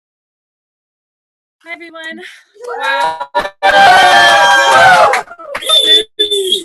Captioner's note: cheers and applause